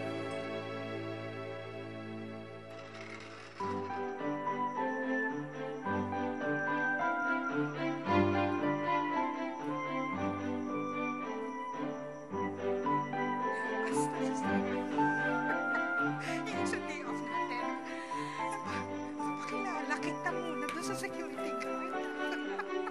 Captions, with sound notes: [light music playing] [chattering] [nanny giggles] In our day-off, I will introduce you to the security guard. [laughs]